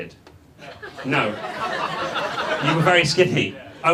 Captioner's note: audience laughs